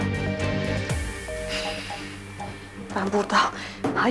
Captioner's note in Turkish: Meşgul tonu